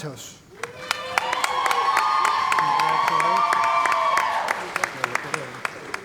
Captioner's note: cheering & Applause